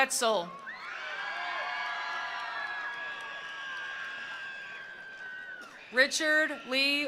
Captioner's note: attendees cheering; attendees applauding